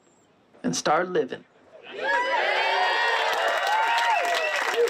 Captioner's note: cheering